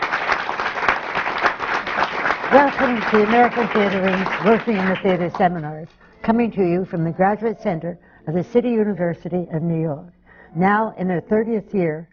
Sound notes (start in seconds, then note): 0.0 applause